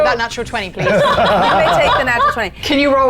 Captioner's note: players laughing